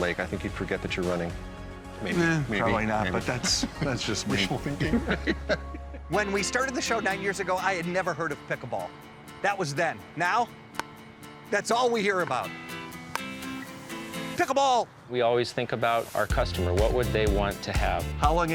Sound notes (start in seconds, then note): 5.5 laughing